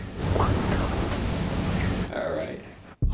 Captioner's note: voice whispering